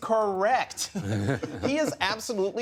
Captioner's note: laughter